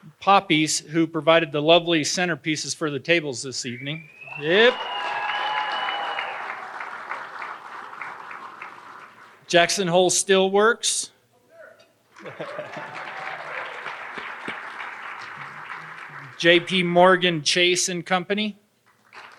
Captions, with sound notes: Poppy's who provided the lovely centerpieces for the tables this evening, yep. (audience applauding and cheering) Jackson Hole Still Works. (audience applauding) JP Morgan, Chase and Company.